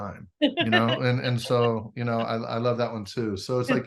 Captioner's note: laughs